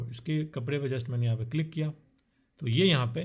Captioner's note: click